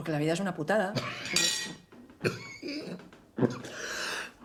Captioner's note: coughing